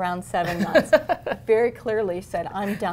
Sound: laughter

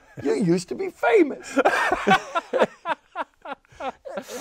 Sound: laughing

